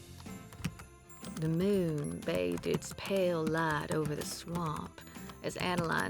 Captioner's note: typing resumes